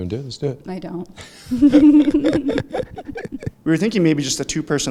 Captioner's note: both laughing